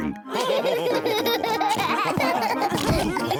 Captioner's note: all laugh